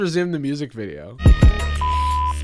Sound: video beeps

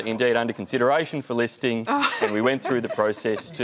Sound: laughs

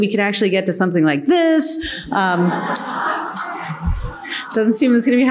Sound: audience laughing

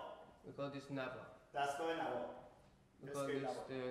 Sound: speaking in farsi

